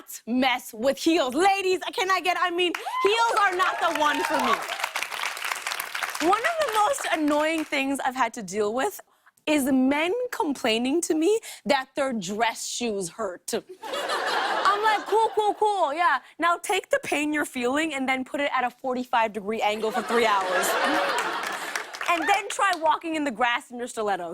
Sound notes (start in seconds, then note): 2.7 cheers and applause; 13.7 laughter; 19.8 laughter and applause